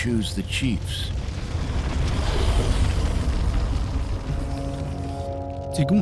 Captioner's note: fire crackling; speaking Native language